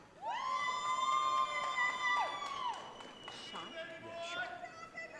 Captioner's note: audience cheering